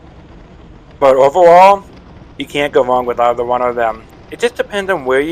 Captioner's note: voiceover